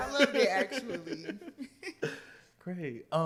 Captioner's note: laughter